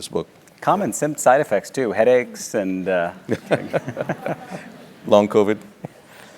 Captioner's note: laugh